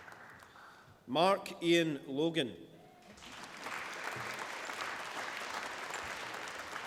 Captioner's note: applause